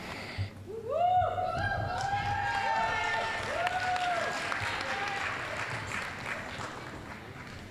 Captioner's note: applause, cheering